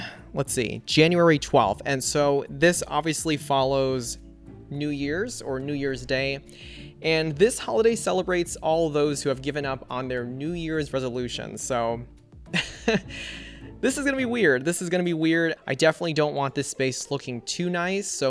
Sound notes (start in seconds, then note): 12.6 laughs